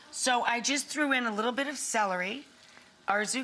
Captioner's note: none